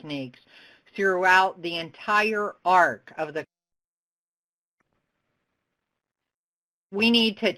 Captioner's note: audio break